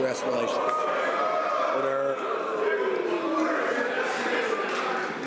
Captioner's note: some Applause